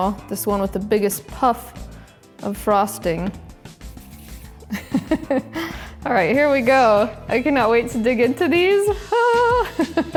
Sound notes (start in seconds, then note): 4.7 chuckles